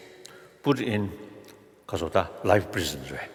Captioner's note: foreign Language